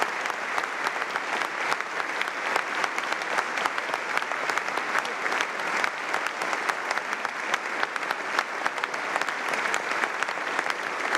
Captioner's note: applause